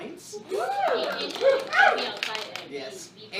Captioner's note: cheering